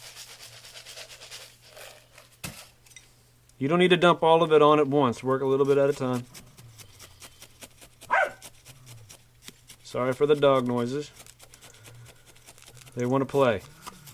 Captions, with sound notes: You don't need to dump all of it on at once. Work a little bit at a time. [dog bark] Sorry for the dog noises. They want to play.